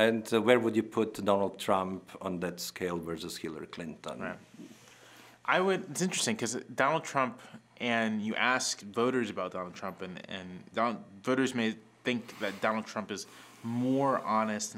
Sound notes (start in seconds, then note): none